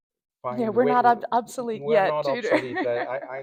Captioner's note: laughs